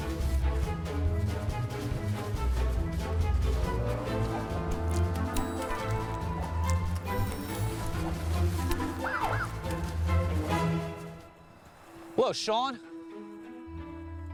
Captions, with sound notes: [POLICE SIREN WAILS] HELLO SHAUN.